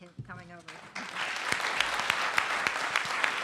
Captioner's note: applause